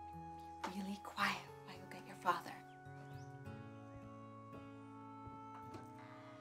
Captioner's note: whispering